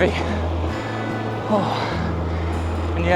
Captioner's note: exclaims